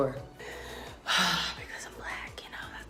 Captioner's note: sighs